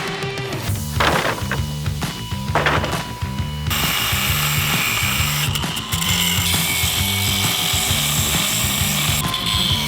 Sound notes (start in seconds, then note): 2.4 wood planks clattering; 4.1 grinder whirring